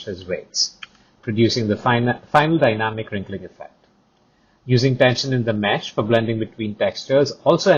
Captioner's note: click